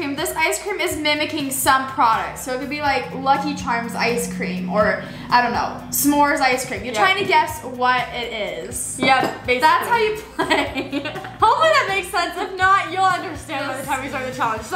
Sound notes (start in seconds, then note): 10.0 laughs